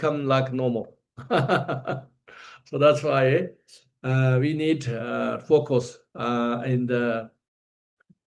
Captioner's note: laughs